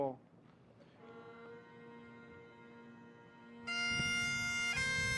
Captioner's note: speaks French